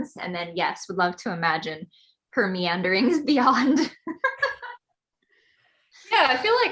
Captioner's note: laughs